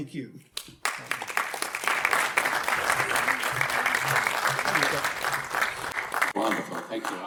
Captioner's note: audience applaude